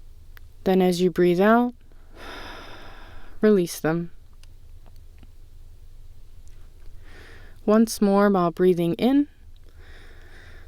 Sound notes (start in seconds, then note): 2.0 exhale; 9.7 inhale